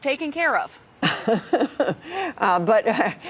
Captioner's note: laughter